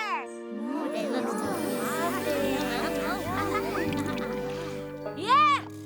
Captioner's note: all murmuring